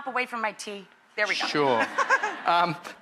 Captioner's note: laughs